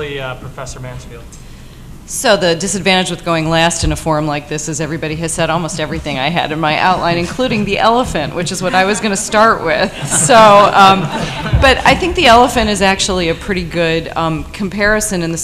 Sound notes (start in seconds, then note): 10.4 laughter